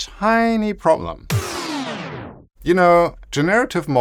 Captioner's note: record scratch